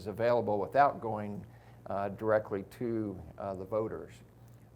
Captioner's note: none